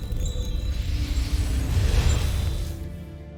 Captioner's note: enchanting chimes; infernal whoosh-crackle